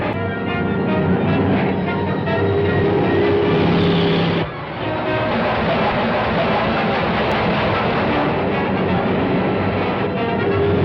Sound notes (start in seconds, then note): 0.1 tank whirring; 3.2 dramatic music; 4.7 horn blares